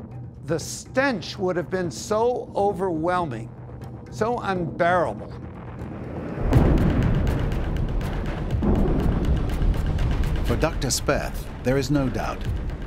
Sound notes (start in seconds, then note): 8.5 bombs exploding